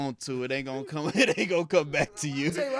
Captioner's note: laughing